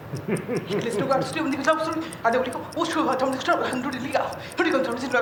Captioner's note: laughs; non-english speech